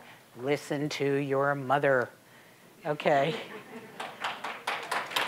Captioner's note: audience laughing; applause